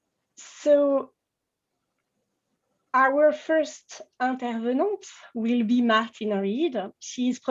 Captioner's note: french